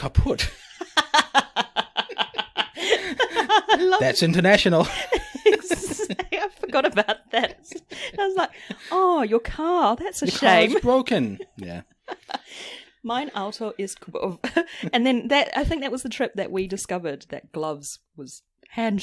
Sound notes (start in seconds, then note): 0.8 laughs